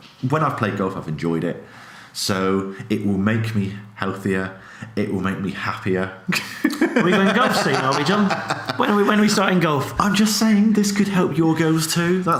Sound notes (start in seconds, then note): 6.3 laughs